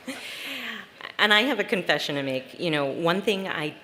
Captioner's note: laughter